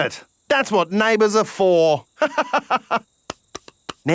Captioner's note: laughs